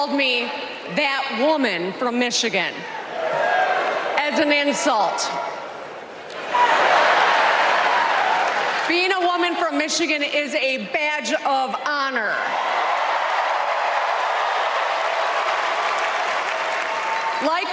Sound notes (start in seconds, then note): 5.1 applause